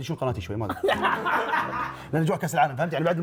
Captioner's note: laughs